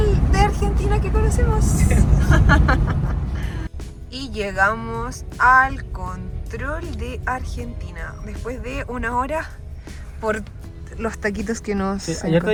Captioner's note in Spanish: risas